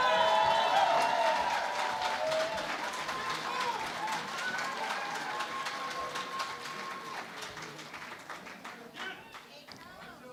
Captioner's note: cheering and Applause